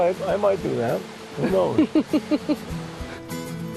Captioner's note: laughing